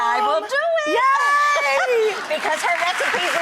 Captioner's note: applause